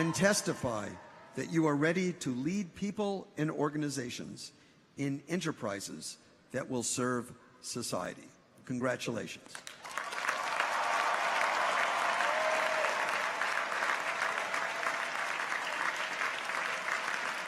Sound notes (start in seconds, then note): 9.6 audience applauds; 9.8 people cheer